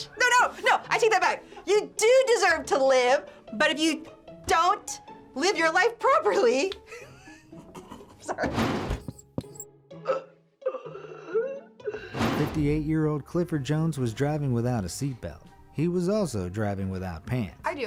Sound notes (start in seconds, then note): 6.9 snickers; 10.6 man wheezing